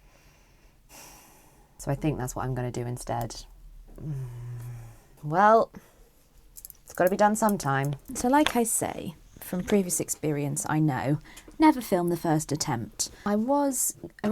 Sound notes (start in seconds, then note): 3.9 dissatisfied hmmmmm